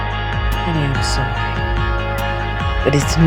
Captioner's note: voiceover